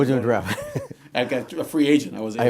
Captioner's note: laughs